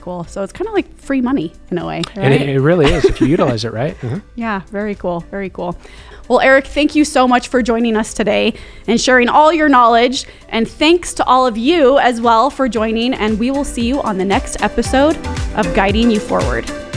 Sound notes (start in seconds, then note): 2.0 laughs